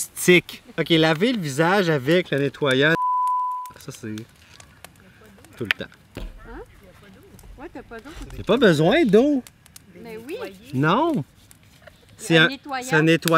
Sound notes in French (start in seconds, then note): 2.9 bip sonore